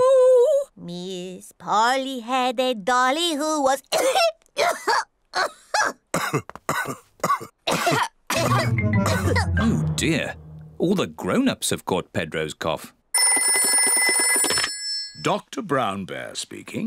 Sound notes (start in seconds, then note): 3.8 coughs; 7.2 all cough; 13.1 phone rings